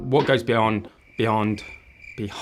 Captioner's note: crickets chirping